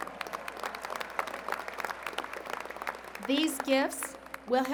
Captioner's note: applause